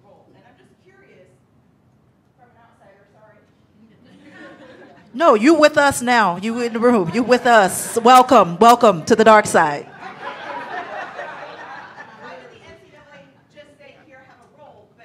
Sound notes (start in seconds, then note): 4.2 audience laughing; 9.8 audience laughing